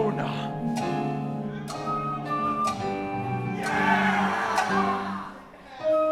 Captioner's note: clock ticking